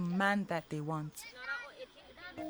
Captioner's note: indistinct chatter